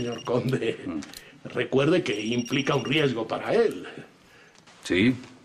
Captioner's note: phone ringing